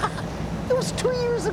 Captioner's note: laughs